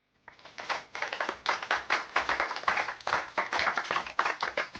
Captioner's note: audience applauds